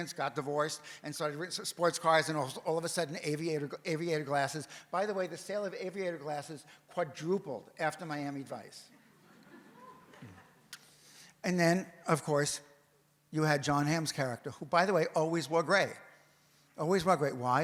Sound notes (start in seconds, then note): 9.2 audience murmers